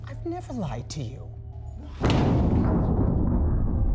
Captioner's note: bed thuds